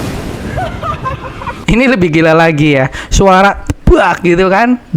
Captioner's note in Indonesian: tertawa